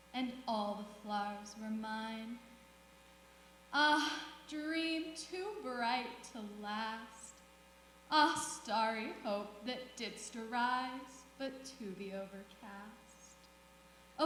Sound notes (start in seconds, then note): none